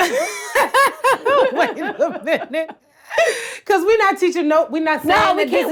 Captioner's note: laughs